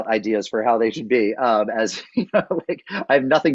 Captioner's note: laughs